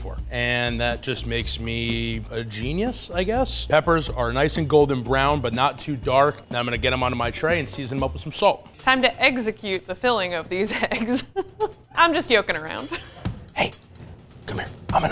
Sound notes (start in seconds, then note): 10.6 laughs